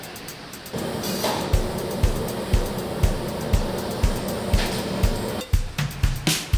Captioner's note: spray paint spouting